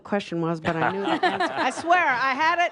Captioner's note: lots of laughter; a few applause